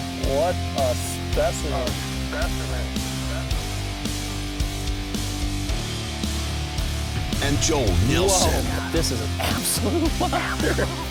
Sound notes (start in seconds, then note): 0.3 voiceover; 2.0 voice echoing; 7.3 voiceover